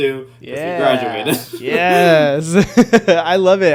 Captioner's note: laughing